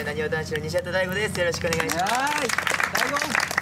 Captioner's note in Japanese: 拍手